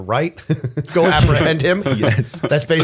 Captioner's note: laughter; chuckle